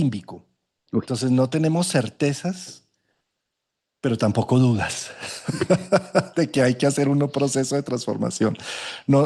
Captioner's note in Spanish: risas